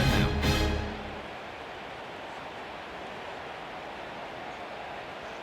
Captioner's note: cheering